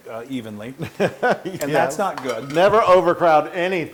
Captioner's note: laugh